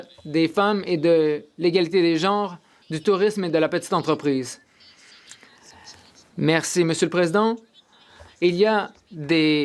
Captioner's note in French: voix de l'interprète